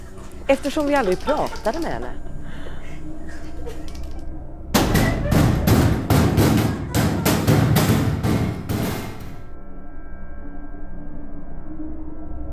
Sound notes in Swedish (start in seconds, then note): 4.7 hårda skåpbankningar